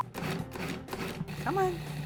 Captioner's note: food processor chops